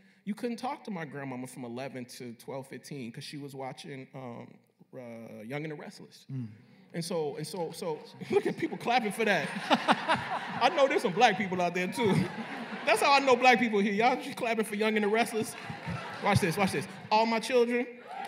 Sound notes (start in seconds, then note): 6.6 scattered applause and laughter; 9.8 laughter; 18.0 cheering and applause